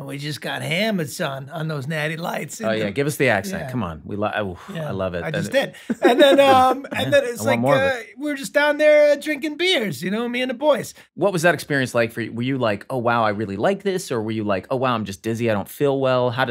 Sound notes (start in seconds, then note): 4.6 rob laughs